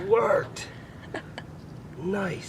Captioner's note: laughing